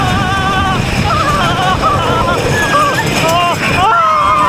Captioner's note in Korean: 아아아아아아아아아악